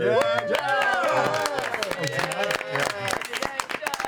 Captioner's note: cheering